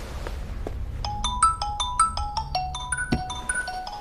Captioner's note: incoming Call